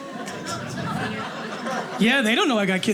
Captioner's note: audience laughing